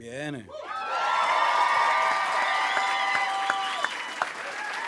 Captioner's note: applause and cheering